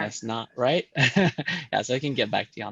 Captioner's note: chuckles